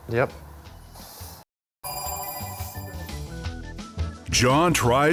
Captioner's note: phone rings